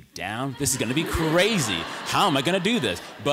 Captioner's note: laughter